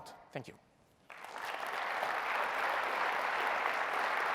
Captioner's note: applause